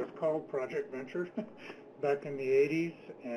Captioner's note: laughs